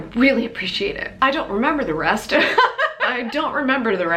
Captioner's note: laughs